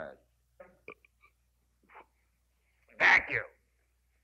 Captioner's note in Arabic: القاضي يتجشأ